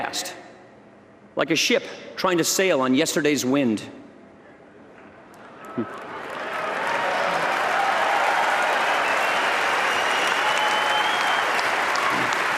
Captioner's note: applause